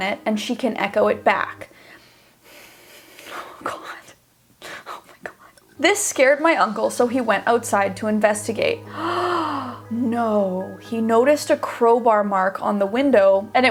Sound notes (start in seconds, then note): 8.8 gasps